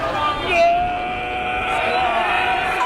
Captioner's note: screams